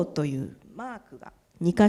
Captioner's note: speaking japanese